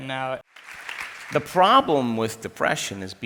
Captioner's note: crowd applauds